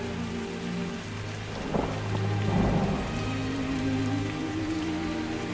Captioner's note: thunder rumbles